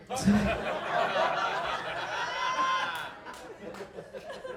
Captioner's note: audience laughing